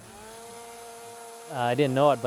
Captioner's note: chainsaw whirring